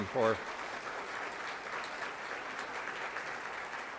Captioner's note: applause